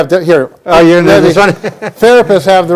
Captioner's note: laughing